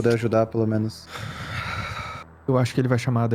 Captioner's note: sighs